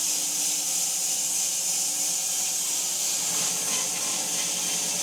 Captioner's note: saw buzzing continues